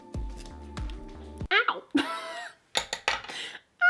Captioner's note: laugh